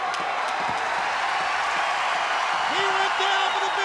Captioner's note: crowd cheering